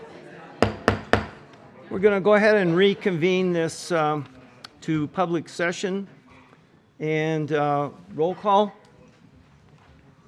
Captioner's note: gavel